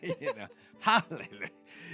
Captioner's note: laughing